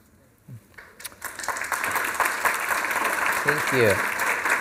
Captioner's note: applause